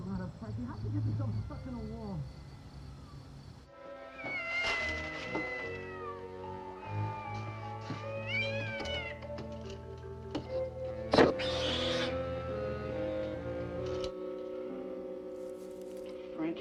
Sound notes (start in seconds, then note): 5.1 cat meowing; 11.2 cat screeches